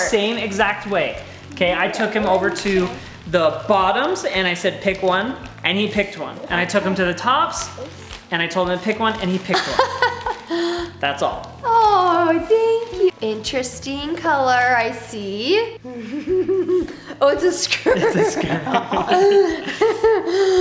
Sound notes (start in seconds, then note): 9.5 laughs; 15.9 giggles; 17.7 laughs